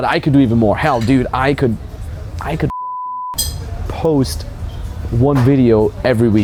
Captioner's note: beeping